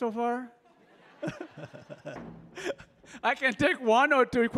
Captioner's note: laughing